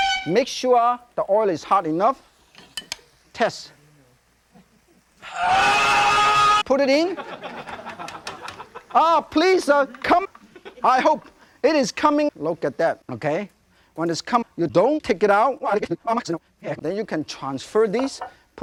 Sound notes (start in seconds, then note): 5.2 ♂ Gachi scream ♂; 7.0 audience laughing; 10.4 audience laughing